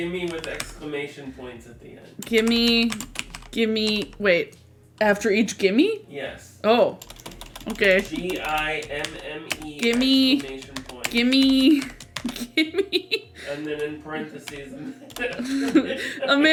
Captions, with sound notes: - Gimme with an exclamation points at the end. - Gimme, gimmme, wait... After each gimme? - Yes. - Oh, okay. - G, I, M, M, E- - With exclamation point. - Gimme!, gimme!, gimme!. (typing) - And then in parentheses - 'A man after midnight' (laughs)